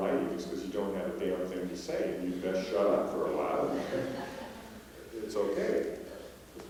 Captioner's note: laughter